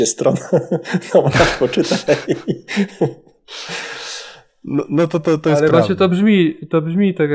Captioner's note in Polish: śmiech